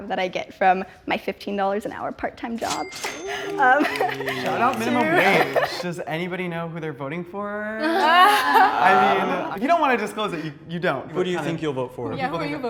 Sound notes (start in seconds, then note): 2.6 machine chinks; 7.8 all laughing